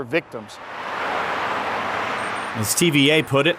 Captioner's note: car drives